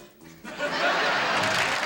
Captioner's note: laughter; applause